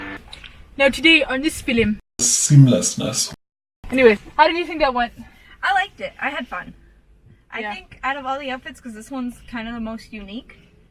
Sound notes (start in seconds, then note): 0.6 John Maclean voice